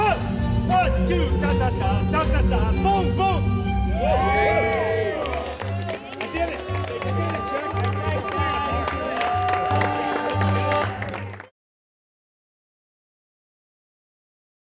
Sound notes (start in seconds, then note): 1.0 coach vocalizes; 3.8 all cheer; 5.2 all clap; 7.9 all chatter and clap